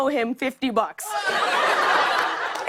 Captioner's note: laughter